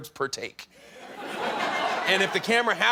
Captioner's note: laughter